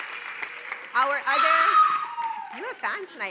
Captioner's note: cheering and applause; loud cheer